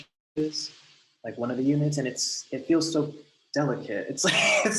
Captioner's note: laughs